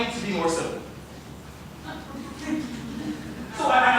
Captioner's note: laughter